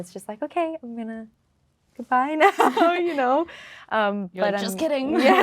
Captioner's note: laughing